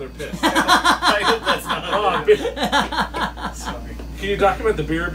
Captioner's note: laughter